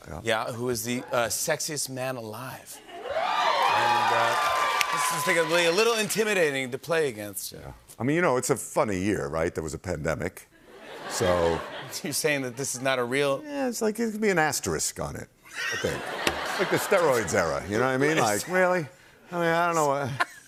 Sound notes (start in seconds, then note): 3.0 cheers and applause; 10.6 laughter; 15.5 laughter; 20.0 laughter